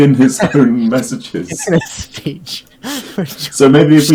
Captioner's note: laughing